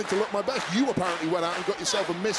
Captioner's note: crowd claps